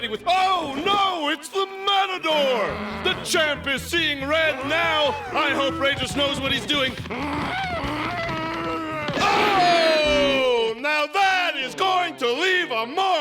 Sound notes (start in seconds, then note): 6.8 growling